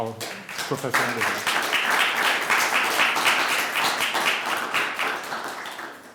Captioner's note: attendees applauding